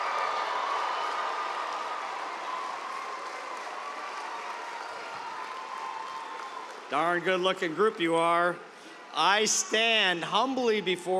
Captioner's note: cheers and applause